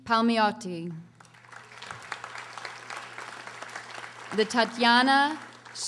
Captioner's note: audience applauding